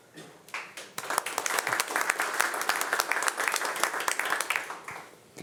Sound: audience applauding

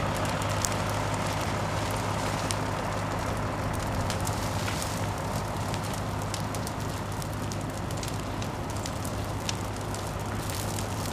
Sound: truck engine rumbling and fire crackling

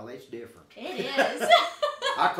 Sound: people laughing

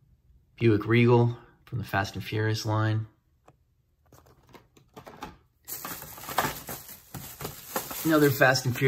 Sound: bag crinkles

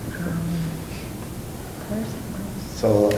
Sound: whispering

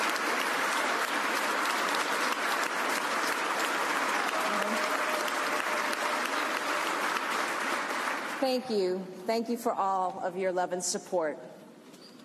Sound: applause

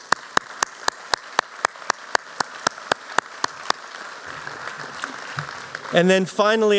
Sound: applause

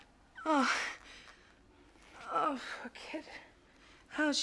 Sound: groaning

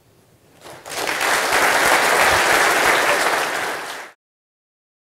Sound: applause

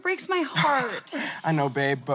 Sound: laughs

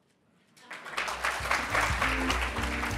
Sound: audience applauding; upbeat jazz music

